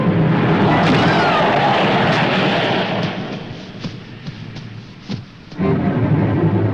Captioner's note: tires squeal; body thuds; tense dramatic music